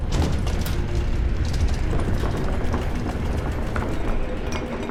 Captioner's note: banging and rattling